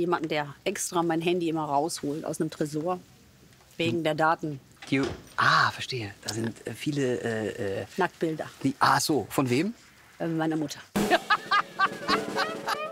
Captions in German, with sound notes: Ich hab jemanden, der extra mein Handy rausholt aus einem Tresor. Wegen der Daten. - Ah, verstehe. Da sind viele, äh ... - Nacktbilder. Ah so, von wem? - Meiner Mutter. (Er lacht herzhaft.)